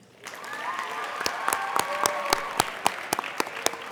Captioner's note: applauding